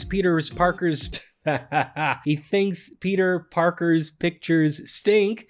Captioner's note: tongue-tied laughs